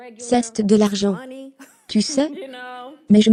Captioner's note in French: rires